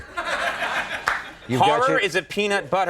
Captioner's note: audience laughing